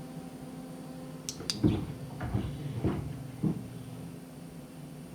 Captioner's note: device clicks; footsteps above